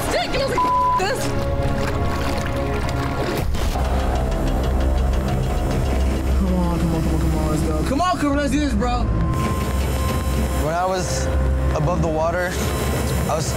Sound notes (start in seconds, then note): 0.0 water splashing; 4.0 crane rumbling; 4.0 ominous music; 9.5 crane rumbling